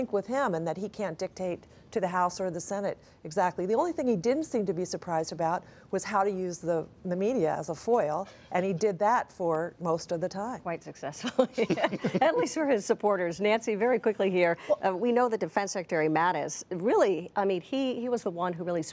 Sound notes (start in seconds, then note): 11.2 laughter